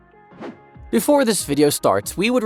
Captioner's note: air whooshing